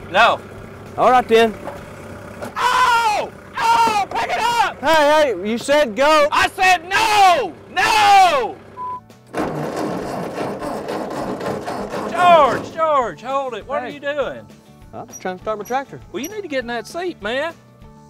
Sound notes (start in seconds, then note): 2.6 painful screams; 9.0 engine noises